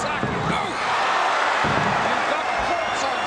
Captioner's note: audience cheering